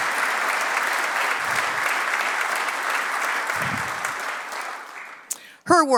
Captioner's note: applause